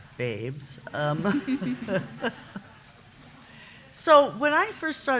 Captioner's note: laughter